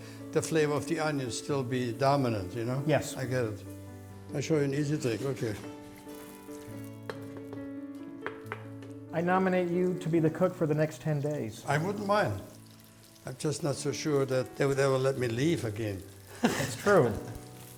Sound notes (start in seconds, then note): 6.3 sizzling; 16.4 laughs